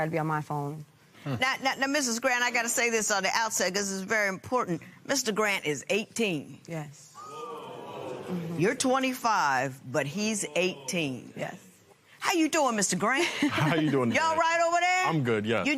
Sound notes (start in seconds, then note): 7.1 spectators gasp